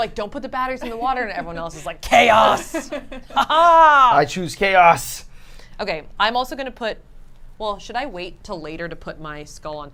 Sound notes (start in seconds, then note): 2.4 laughs evilly